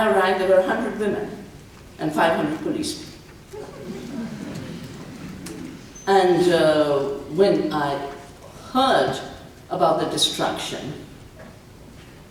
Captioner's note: laughter